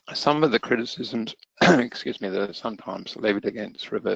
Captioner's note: coughs